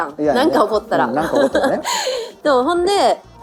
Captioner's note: laughs; gasps